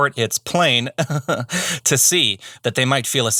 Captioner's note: chuckles